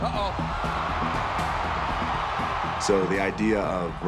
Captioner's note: tense music continues; crowd cheering